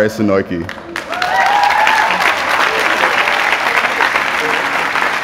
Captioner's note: applause